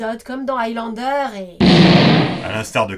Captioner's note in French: Boum